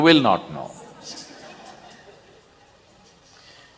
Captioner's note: laughter